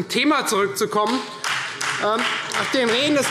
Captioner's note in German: Beifall Freie Demokraten, vereinzelt BÜNDNIS 90/DIE GRÜNEN und SPD